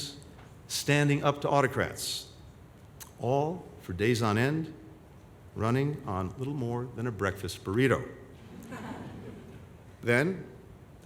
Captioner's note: laughter